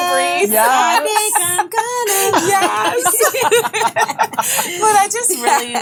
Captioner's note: all speaking and laughing; ladies laughing; singing